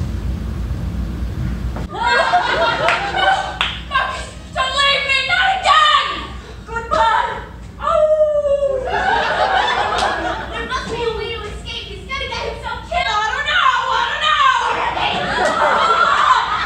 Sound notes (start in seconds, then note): 7.8 howls softly